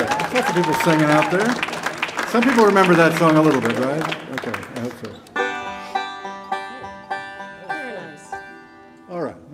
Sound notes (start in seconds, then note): 0.0 audience cheer and applaud; 5.2 banjo tuning